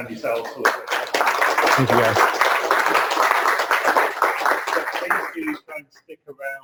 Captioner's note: clapping